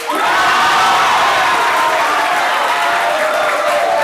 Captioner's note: audience applauds